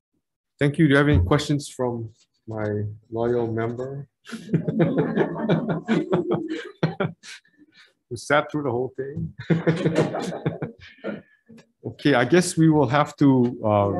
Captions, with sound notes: Thank you, do you have any questions from my loyal member? (committee members laughing) We sat through the whole thing. (committee members laughing) Okay. I guess we will have to